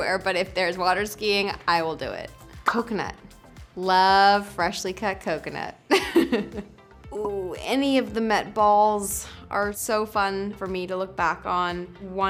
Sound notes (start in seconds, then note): 5.9 Lily laughs